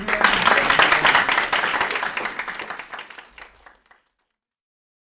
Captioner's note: applause